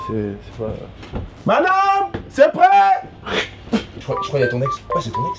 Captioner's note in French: il crache